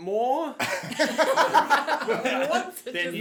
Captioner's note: laughing